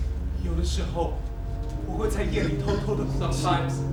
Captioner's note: speaking in a foreign language